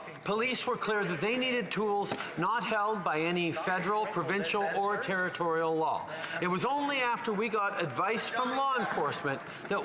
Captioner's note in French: voix de l'interprète